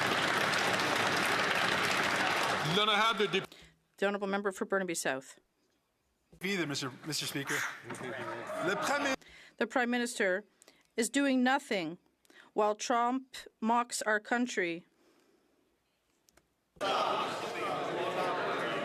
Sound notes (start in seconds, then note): 2.3 some Applause